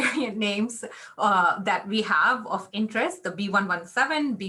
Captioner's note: laughter